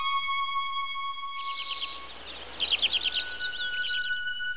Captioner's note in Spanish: pájaros cantando